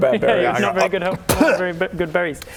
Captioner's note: nom